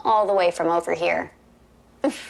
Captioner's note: chuckling